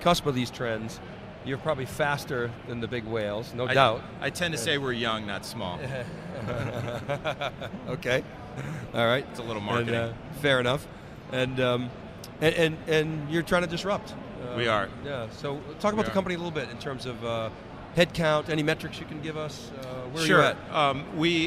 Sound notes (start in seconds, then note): 5.8 laughing